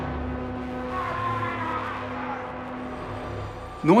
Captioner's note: shouting